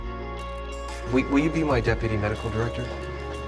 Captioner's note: voiceover